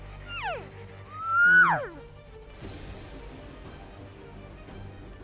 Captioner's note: hunter imitates elk call